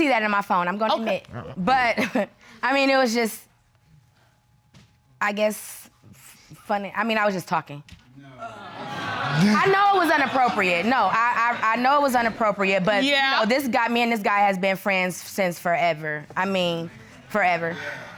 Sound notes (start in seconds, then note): 1.8 chuckles; 8.1 indistinct chatter